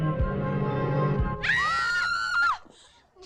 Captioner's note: girls screaming